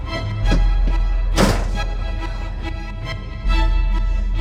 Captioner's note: dramatic music continues; door slams